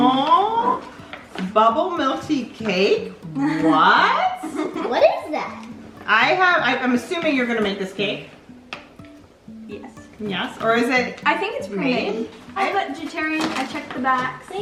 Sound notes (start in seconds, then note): 3.3 giggles